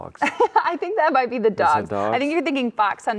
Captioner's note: laughing